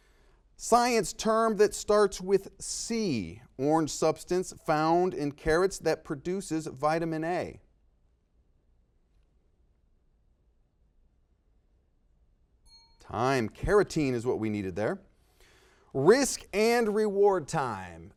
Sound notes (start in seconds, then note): 7.6 silence; 12.6 dings